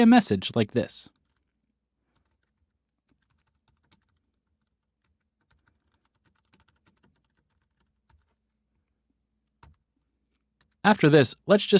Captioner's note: typing